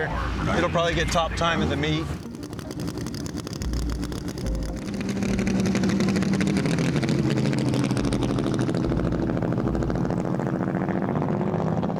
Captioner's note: engine humming